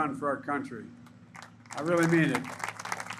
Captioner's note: applause